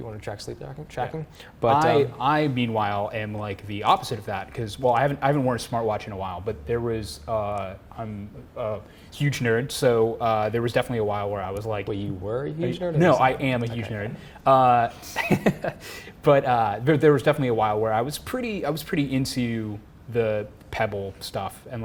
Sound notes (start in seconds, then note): 15.0 laughs